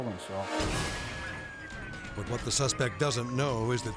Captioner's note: sirens wailing